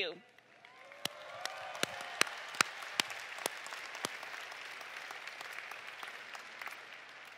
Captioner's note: applause